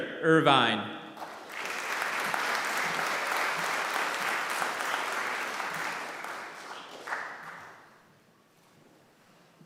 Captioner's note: applause